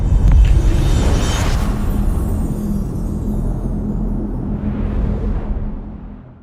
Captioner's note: dramatic sound